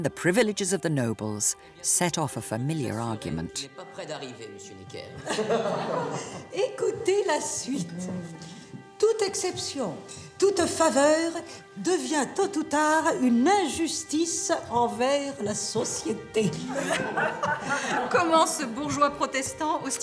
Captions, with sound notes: the privileges of the nobles set off a familiar argument. (courtiers speaking in French) (tense music)